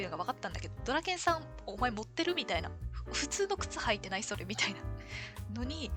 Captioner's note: laughs